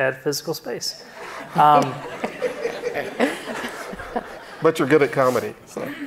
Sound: audience laughing

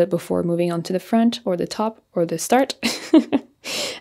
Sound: giggles

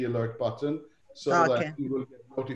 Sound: laughs

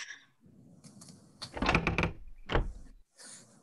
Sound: cabin door creaks

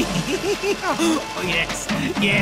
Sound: doofenshmirtz laughing

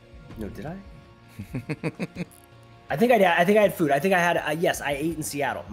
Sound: laugh

